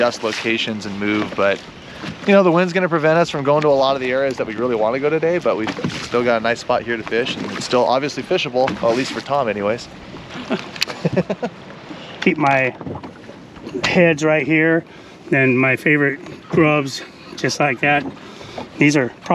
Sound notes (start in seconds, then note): 10.3 chuckling